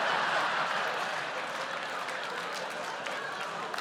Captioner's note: laughter and applause